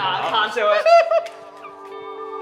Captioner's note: laughs